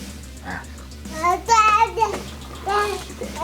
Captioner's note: baby screams